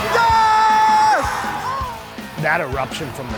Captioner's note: crowd cheers